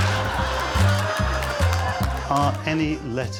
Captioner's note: laughter